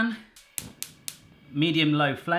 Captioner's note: gas stove igniting